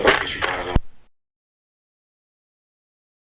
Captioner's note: whispering